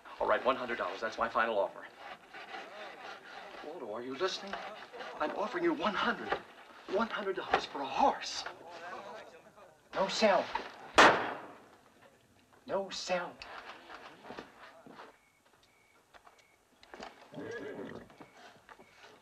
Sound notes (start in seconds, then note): 17.0 horse blustering